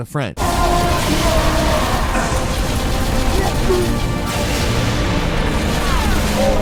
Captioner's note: fighters grunting; guns firing